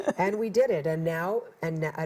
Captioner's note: chuckles